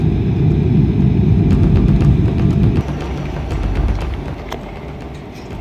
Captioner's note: airplane engine roaring